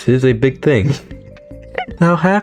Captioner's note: laughs to myself